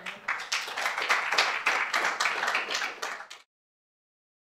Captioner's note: applause